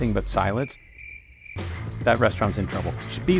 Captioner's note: crickets chirping